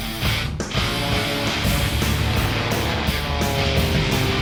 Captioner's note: aeroplane engines roar